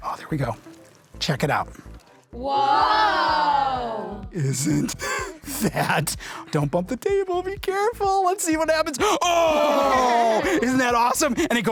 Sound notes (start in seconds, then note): 2.4 children Exclaim